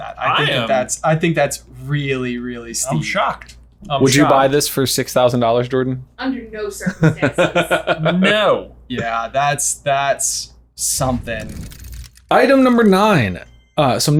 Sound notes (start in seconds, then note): 7.0 laughs